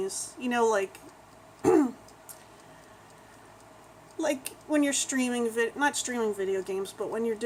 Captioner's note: clears throat